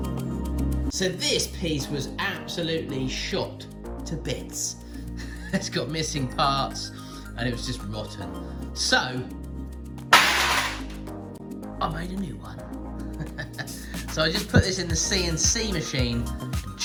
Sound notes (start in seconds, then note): 10.2 crashing; 13.1 chuckles